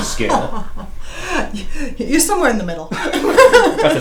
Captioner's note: laughter